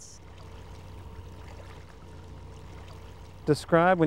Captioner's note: water trickling